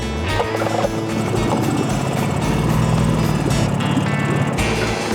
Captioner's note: motor rumbling; upbeat country music